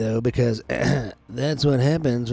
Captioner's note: ahem